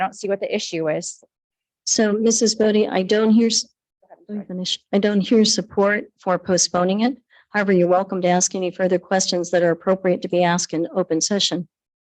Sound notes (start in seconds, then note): none